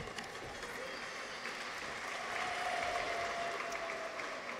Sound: audience applauds

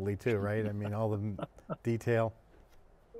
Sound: laughs

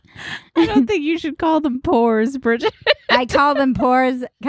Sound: laughs

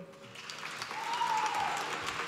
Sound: applause

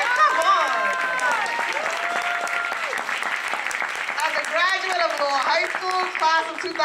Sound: applause

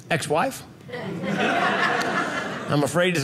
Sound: audience laughing

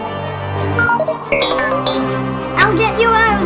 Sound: computer beeps

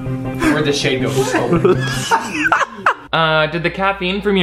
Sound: Shane and Andrew laughing

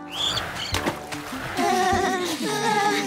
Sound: shivering

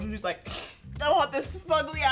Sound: sniffs

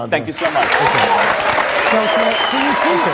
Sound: audience applause

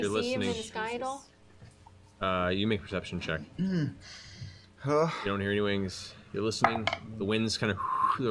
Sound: whistles

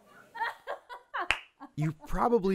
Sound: laughs

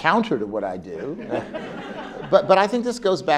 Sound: laugh

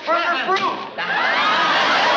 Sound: thunk

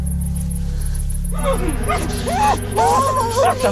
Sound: muffled shouting

